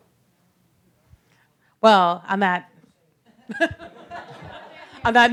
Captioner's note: laughter